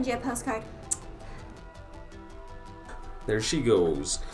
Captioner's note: lips smooching